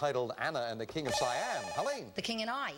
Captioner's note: buzzer